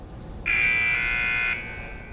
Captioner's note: alarm